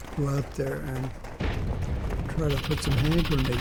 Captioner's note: guns firing